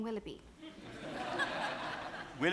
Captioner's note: audience laughs